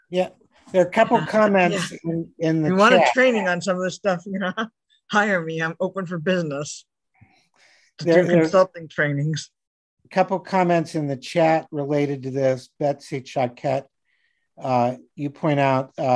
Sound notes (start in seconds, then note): 4.1 laughing